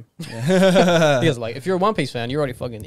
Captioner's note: laughing